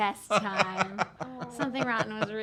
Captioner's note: laughing